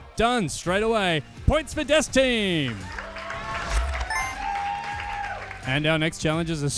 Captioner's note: audience cheering